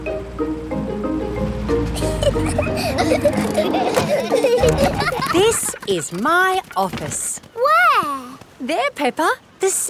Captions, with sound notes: (CHILDREN GIGGLING) This is my office! Where? There, Peppa!